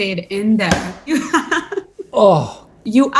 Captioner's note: laughs